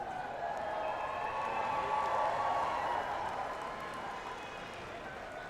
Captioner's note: audience cheering and applauding